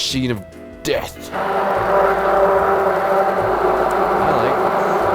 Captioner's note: immersion blender whirring